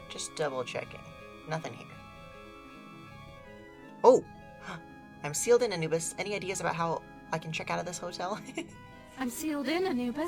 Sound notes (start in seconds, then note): 4.6 gasps; 8.3 giggles